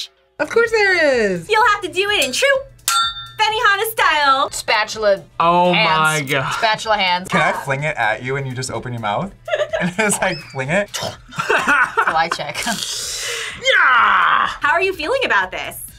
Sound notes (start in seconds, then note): 2.8 metal clangs; 9.4 laughs